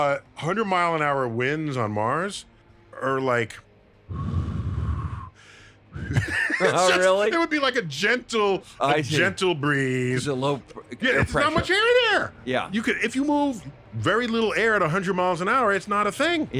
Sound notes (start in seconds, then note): 4.1 blows air